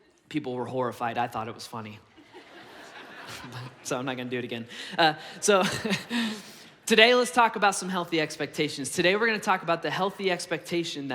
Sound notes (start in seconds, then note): 2.1 congregation laughs; 5.5 laughs